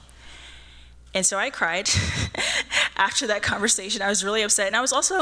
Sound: laughs

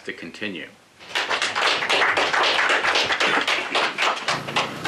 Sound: applause

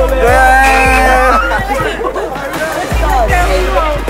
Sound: everyone cheers

